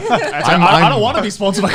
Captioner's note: laughing